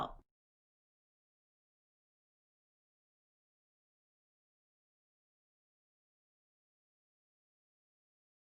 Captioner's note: no audio